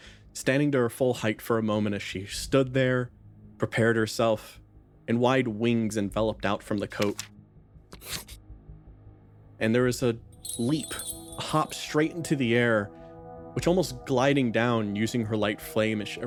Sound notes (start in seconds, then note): 10.4 bells